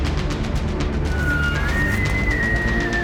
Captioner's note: elk bugling